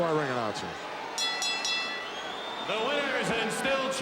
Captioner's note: bell rings